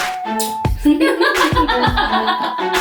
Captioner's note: laughs